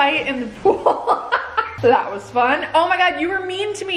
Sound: laughing

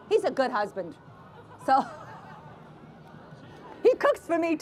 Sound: laughter

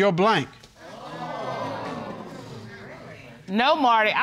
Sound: audience gasps

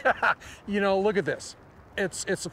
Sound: laughter

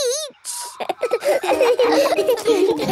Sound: all laughing

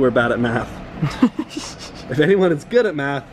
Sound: laughs

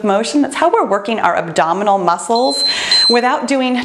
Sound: timer beeps

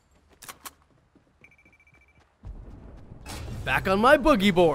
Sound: gun clicks

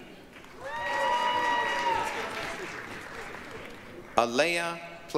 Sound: applause, cheering

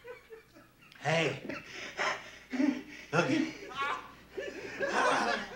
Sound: laughter

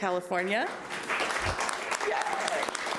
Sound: audience applauding

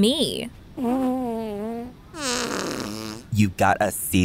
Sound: someone farting

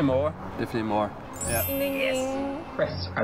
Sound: bell ringing; on phone

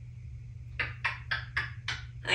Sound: kisses

